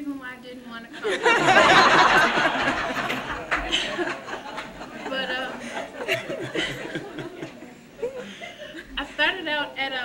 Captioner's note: audience laughter